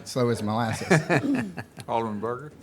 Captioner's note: laughs